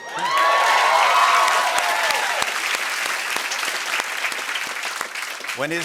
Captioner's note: cheers and applause